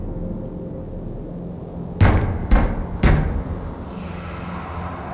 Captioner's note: knock. Knock. Knock